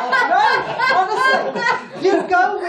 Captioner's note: all laughing